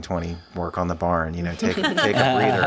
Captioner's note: laughing